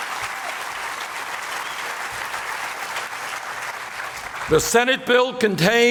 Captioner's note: applause